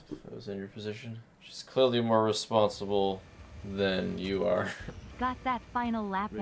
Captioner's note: laughs